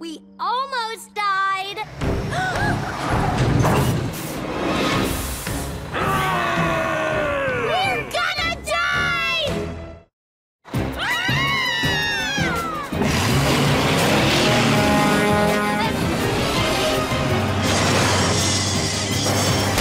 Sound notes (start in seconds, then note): 2.8 both gasp; 6.0 angry growls; 11.0 screaming; 14.2 honking